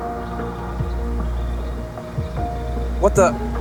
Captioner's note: suddenly hearing wing beats